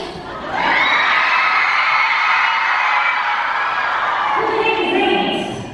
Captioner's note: audience cheering